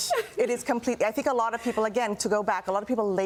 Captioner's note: laughter; laughter